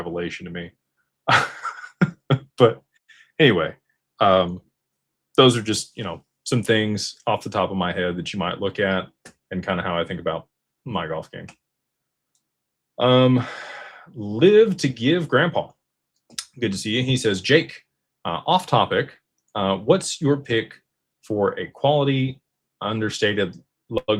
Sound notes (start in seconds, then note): 1.2 laughter; 13.2 sighs